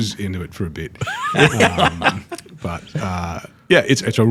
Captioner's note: all laugh